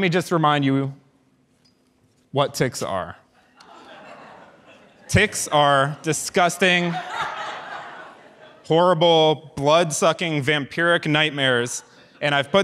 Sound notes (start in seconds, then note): 3.5 audience laughs